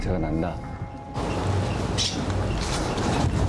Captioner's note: bird calls